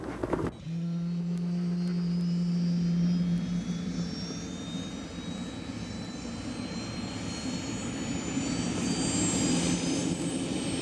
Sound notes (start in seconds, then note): 1.4 helicopter blades whirring